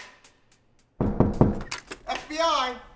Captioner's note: bang